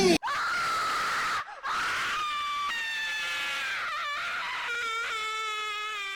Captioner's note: Scream of Tinky Winky's attack